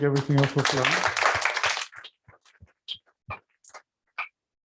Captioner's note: applause